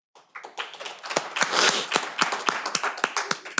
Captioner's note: all applaud